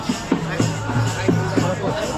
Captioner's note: chanting